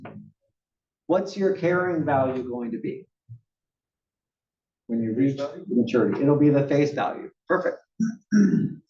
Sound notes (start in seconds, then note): 8.0 cough